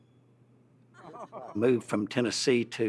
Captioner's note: group laughs